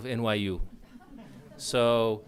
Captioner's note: audience laughs